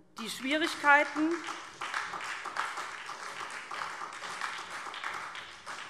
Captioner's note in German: Beifall SPD